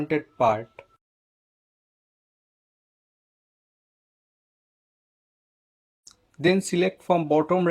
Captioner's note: muted